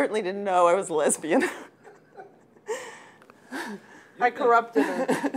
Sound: laughing

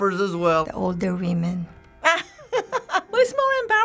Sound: laughing

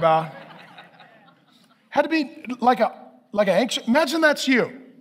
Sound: congregation laughing

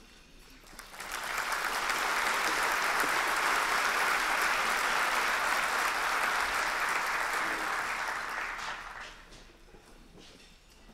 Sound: applause

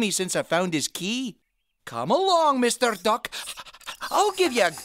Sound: panting

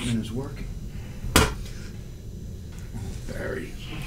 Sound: spit

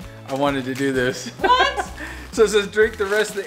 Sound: man chuckling

